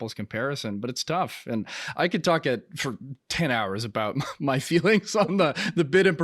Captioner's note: giggles